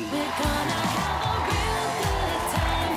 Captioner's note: honking